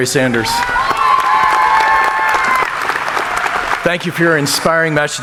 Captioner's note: audience applauding